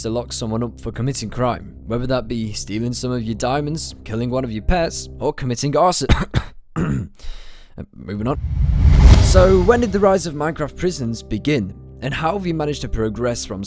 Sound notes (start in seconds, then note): 6.7 coughs